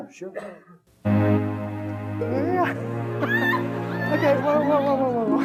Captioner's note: slow dance music; audience laughing